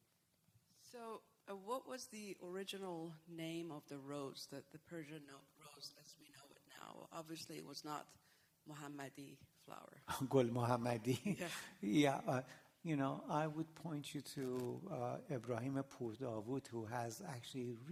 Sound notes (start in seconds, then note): 15.3 non-english